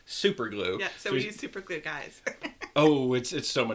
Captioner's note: laughs